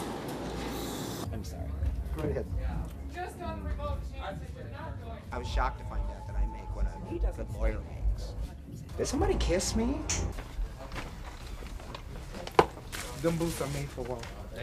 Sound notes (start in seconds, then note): 6.4 indistinct chatter